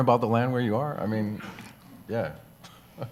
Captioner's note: chuckles